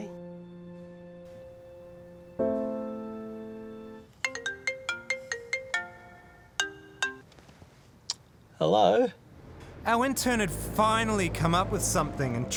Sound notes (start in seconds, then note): 0.0 sad music; 4.3 phone ringing